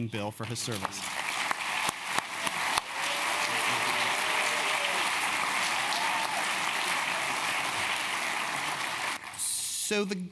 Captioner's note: applause